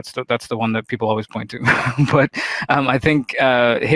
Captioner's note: chuckles